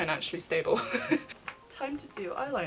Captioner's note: laughs